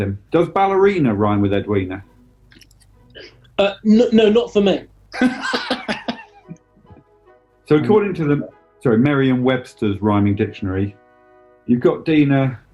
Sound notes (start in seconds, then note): 5.1 laughing